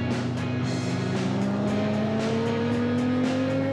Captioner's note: engine speed increases